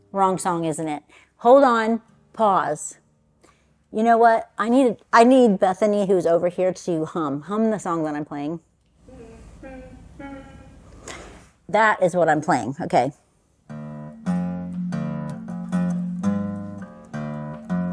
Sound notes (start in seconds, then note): 9.1 humming; 13.7 guitar strumming begins